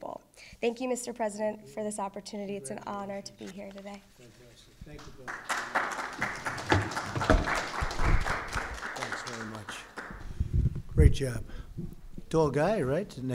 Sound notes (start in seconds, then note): 8.1 applause